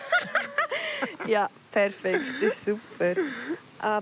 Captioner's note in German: Lachend